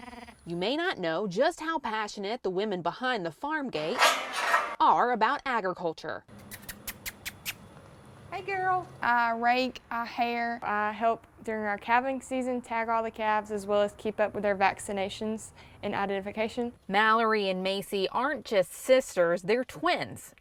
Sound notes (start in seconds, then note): 3.9 gate closing